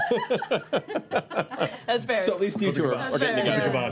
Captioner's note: laughter